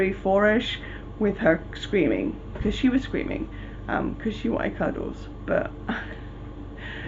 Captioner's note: laughing